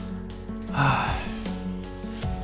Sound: sighs

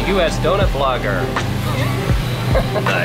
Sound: laughter

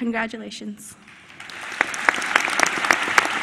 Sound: applause

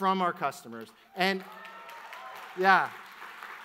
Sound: audience applauds

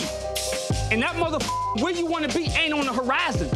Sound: beeps

